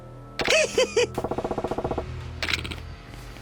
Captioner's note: laughs